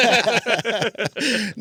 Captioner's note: laughing